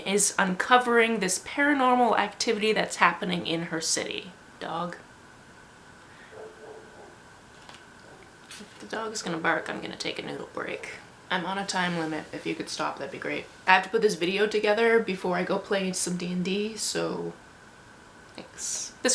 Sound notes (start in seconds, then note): 6.3 barking in background; 6.3 more barking